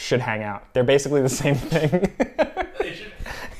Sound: laughs

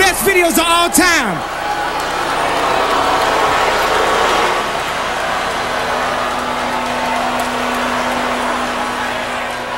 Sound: audience Boos

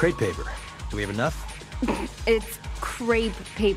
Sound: snorts

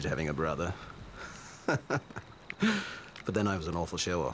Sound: laughs

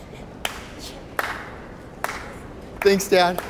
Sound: slow clap

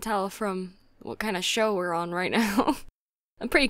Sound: giggle

